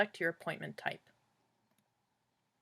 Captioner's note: clicking sound